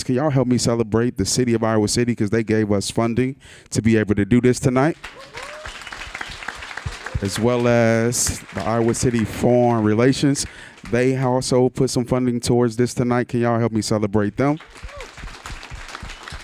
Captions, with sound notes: Can y'all help me celebrate the city of Iowa City, because they gave us funding to be able to do this tonight [APPLAUSE] as well as the Iowa City foreign Relations. They also put some funding towards this tonight. Can y'all help me celebrate them?